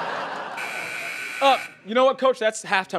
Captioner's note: buzzing